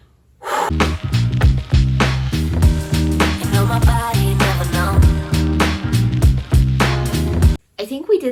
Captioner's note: huffs